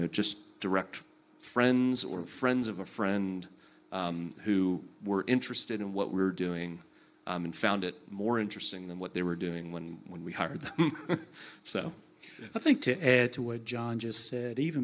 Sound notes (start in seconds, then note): 10.6 laughs